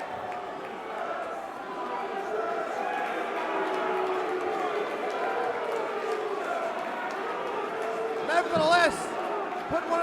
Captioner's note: crowd cheering